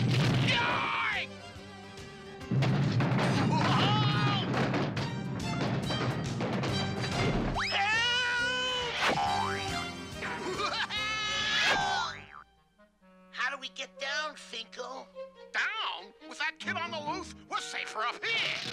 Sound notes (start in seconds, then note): 3.6 Finko screaming; 10.2 exclaiming